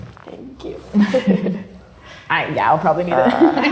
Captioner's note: both giggle